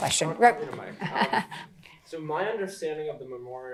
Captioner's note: chuckles